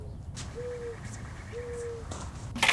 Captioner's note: none